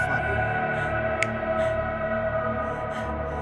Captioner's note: snaps